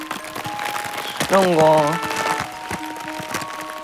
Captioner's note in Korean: 빠앙